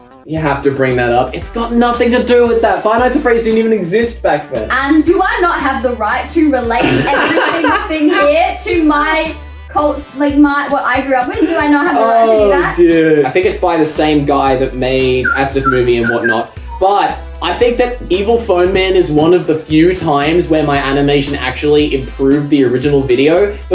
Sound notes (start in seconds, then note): 6.8 laughs